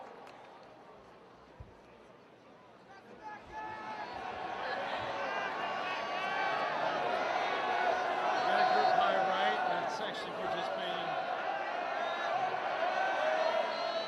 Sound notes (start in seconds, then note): 4.7 cheers